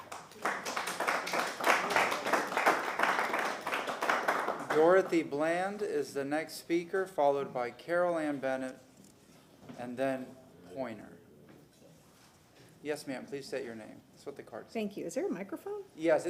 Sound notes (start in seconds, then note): 3.3 applause